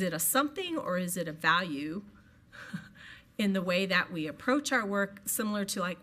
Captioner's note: chuckles